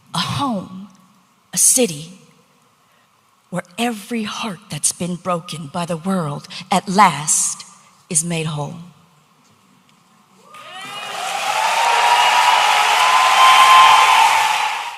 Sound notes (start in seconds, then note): 10.5 audience applauding